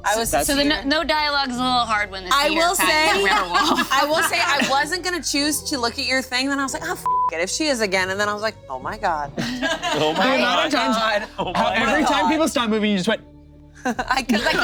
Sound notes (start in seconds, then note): 7.0 beep; 9.4 group laughing